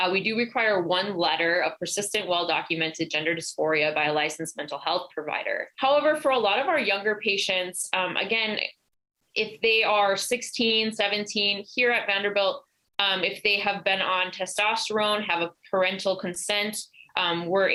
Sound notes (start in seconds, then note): none